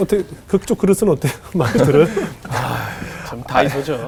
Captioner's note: laughing